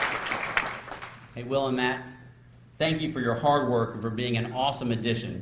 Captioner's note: applause